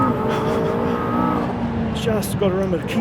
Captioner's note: laughs